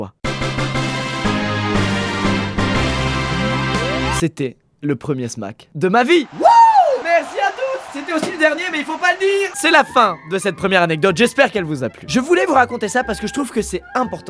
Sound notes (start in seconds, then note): 9.2 crowd cheering